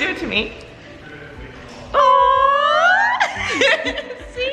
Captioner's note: both laughing